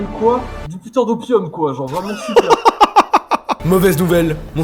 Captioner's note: laugh